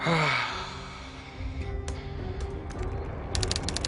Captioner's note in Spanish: Suspiro